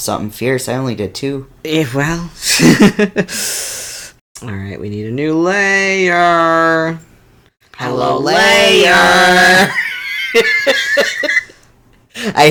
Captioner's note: laughs